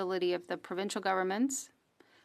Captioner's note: speaking French